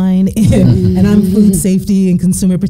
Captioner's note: all laughing